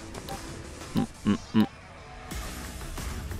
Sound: more humming

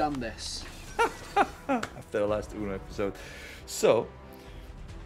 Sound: laugh

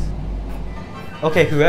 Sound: chuckle

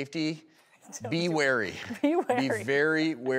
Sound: laughs

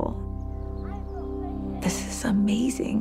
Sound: child talking

